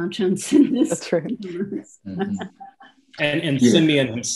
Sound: laughs

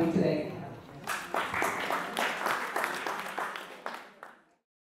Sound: applause

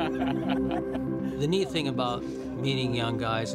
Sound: laughs

